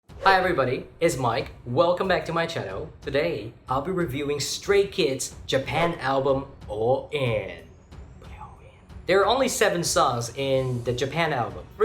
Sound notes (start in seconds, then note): 7.2 whisper: Put it all in